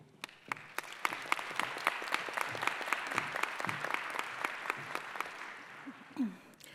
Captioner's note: applause